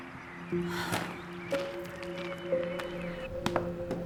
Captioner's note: sighs; pensive music